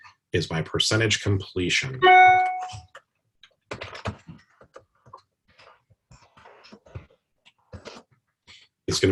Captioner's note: typing Sounds